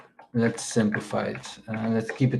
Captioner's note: keyboard clacking